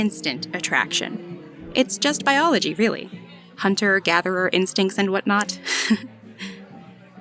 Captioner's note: laughs